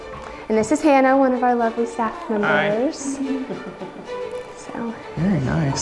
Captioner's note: laughs